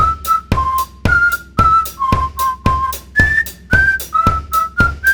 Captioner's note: whistling